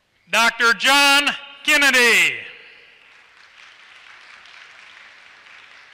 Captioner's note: applause